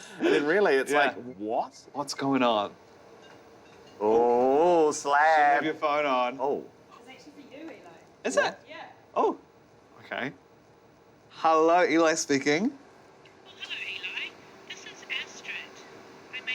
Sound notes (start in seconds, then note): 0.0 laughing; 3.5 phone ringing